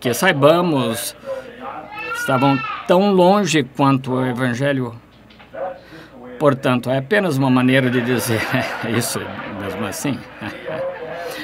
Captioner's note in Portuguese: A bebé chora